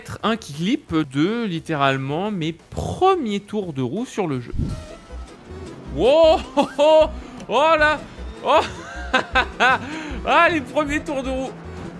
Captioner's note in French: rires